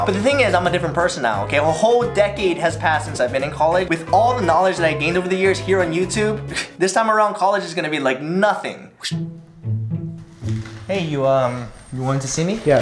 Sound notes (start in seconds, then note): 6.4 scoffs